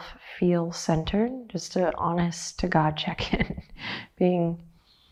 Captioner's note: chuckles